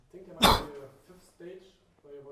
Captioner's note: tutor coughs